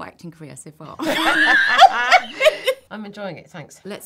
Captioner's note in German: lachen